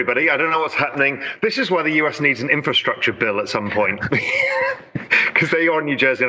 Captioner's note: laughs